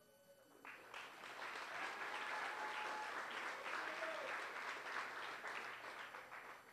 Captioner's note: applause